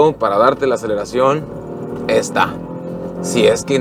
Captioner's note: engine roaring